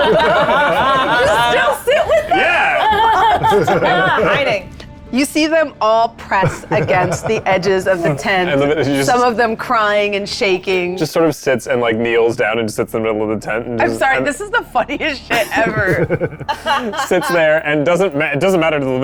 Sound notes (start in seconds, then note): 0.0 group laughs; 6.6 laughs; 15.3 group laughs